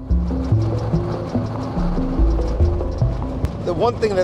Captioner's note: mysterious music; engine running